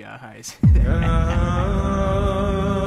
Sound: evil laugh

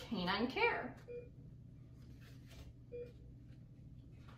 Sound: beeping

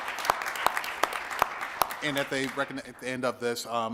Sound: applause

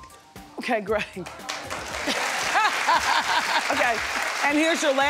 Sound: audience applauds

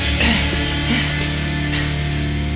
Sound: breath

